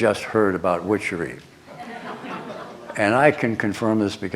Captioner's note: laughter